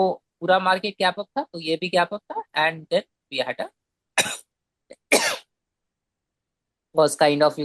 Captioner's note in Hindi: खांसने की आवाज़